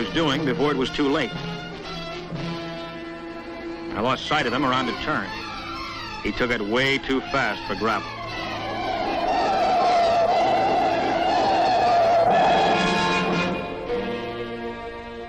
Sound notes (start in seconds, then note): 8.3 tires screeching